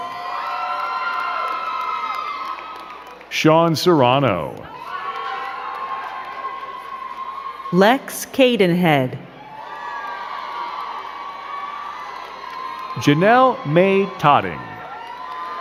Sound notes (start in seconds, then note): 0.0 crowd cheering and clapping; 15.4 crowd cheering